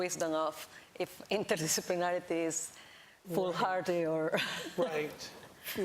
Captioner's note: laughs